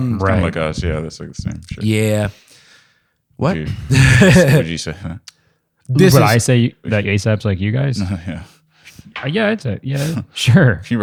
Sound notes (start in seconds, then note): 3.9 laughs